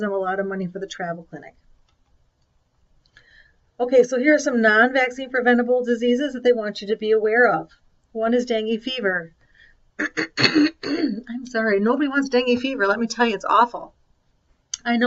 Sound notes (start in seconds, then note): 10.0 clears throat